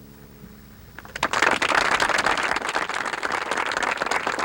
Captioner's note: audience applauds